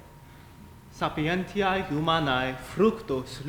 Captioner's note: speaking latin